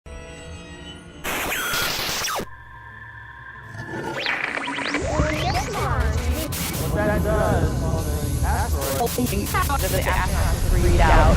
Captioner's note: sound Effects